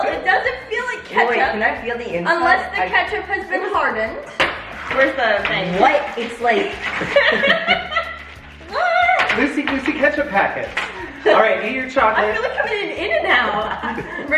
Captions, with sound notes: - Well, it doesn't feel like ketchup. - Wait, wait. Can I feel the inside? - Unless the ketchup has been hardened. - Where's the thing? - What? It's like... (family laugh) - Lucy Goosey ketchup packets. All right, eat your chocolate. - I feel like I'm in an In-N-Out.